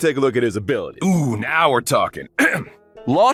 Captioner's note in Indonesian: Ehem